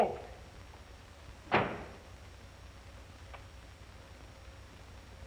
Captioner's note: door slamming